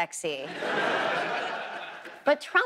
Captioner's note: audience laughs